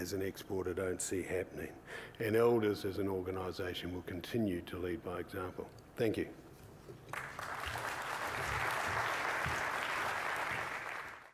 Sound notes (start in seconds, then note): 7.0 applause